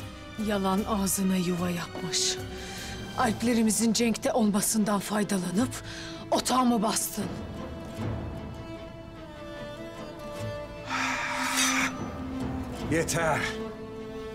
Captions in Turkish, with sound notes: Yalan ağzına yuva yapmış. Alplerimizin cenkte olmasından faydalanıp... ...otağımı bastın. (Nefes sesi) (Kılıç sesi) Yeter!